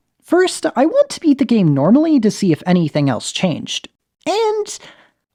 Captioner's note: none